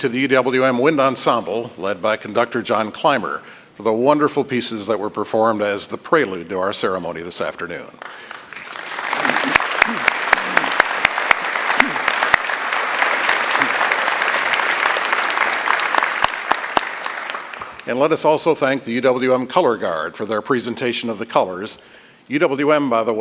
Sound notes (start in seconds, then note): 12.6 applause